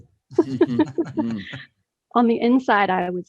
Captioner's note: laughs